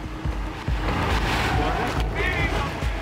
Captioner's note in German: Platschen, Rauschen